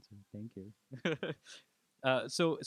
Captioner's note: laughs